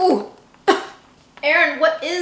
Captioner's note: coughs